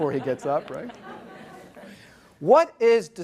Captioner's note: audience laughs